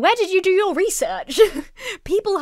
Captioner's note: laughs